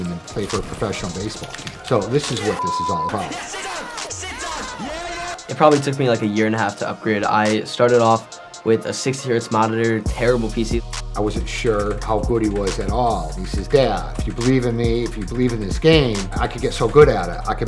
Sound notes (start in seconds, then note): 3.8 shouting